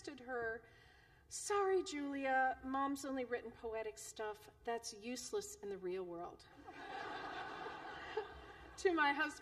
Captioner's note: laughter